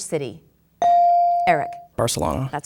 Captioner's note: bell dinging